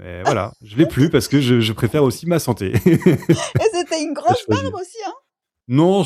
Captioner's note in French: rires